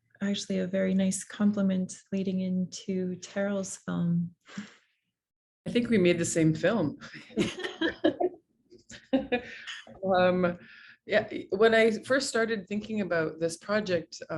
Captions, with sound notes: Actually a very nice compliment leading into Terril's film. I think we made the same film. (Laughter) When I first started thinking about this project.